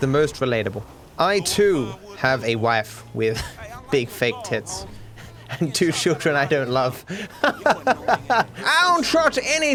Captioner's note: laughs